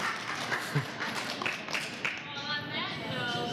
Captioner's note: laughing; applause